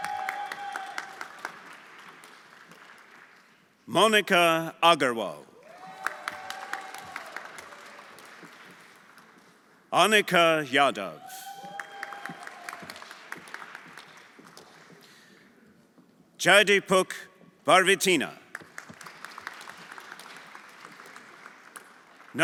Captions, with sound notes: (everyone applauding) (audience cheering) Monica Agarwal. (everyone applauding) Anika Ydov. (everyone applauding) (audience cheering) Jadipuk Barbitina. (everyone applauding)